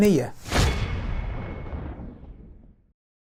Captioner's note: sound effect